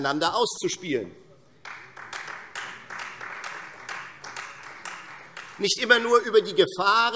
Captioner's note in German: Beifall Freie Demokraten